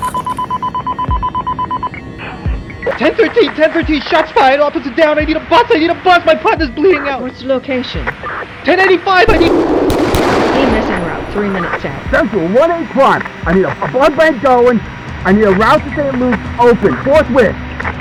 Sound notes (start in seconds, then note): 0.0 Max's walkie-talkie beeps, static; 9.2 gunshots